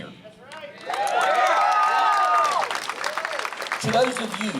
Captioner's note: applause